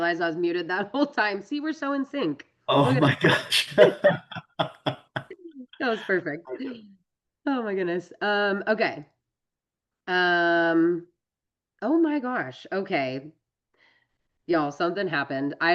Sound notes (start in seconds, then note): 2.9 laughter